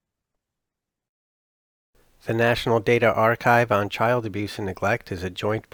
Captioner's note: voiceover